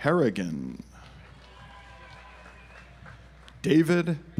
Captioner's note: audience applauds